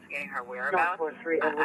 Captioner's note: radio chatter